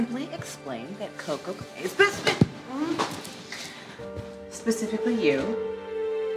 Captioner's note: moaning